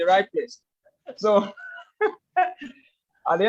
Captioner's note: laughs